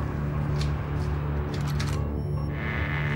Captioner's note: soft tense orchestral music; gun cocking; door creaking